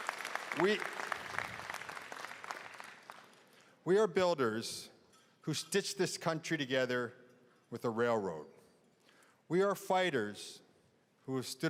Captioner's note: cheering and applause